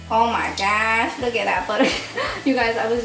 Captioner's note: laughing